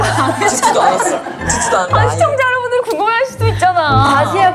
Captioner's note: upset